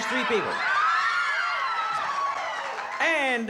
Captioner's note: cheering